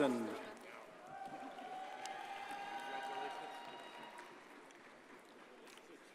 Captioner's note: audience cheers and applauds